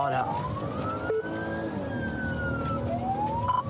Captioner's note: siren blares